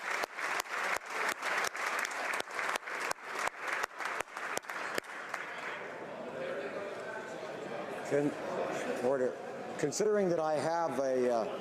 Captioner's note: applause